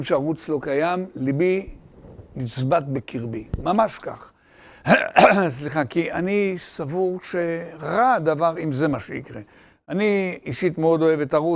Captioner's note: coughs